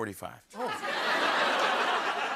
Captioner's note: laughter